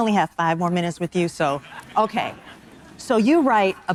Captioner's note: audience members laughing